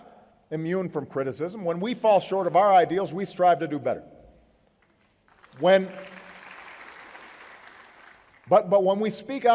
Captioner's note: applause